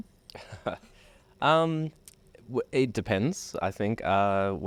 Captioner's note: laughs